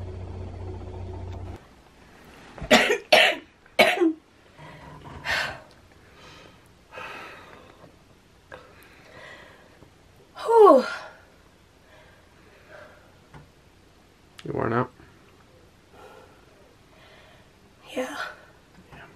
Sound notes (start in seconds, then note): 3.8 coughing; 4.6 heavy sigh